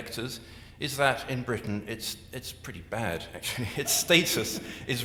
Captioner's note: chuckles